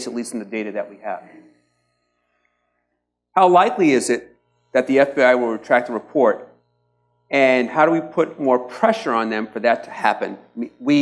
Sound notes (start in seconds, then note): none